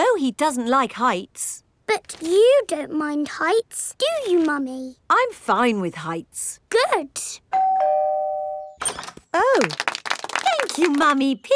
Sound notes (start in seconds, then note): 7.5 doorbell ringing; 9.5 crowd applauding